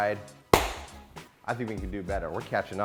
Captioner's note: loud clap